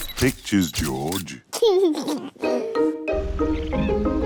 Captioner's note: laughs; giggles